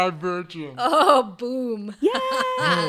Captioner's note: laughing